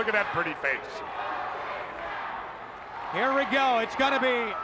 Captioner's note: audience chanting and clapping